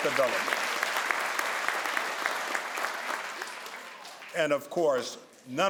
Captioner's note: crowd applauds